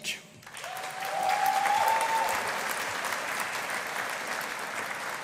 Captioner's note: audience applauding